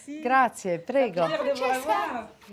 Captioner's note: speaks in Italian